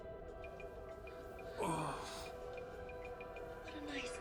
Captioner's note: man grunts